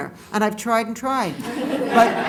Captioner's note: laughter